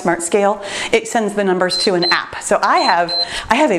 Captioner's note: timer beeps